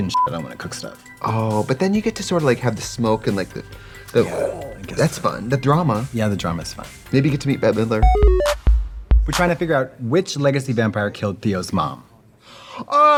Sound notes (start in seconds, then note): 0.1 beeping; 4.2 imitates whooshing; 8.0 bright electronic music